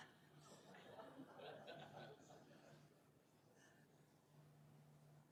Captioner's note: audience chuckles